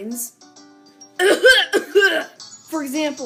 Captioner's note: exaggerated coughing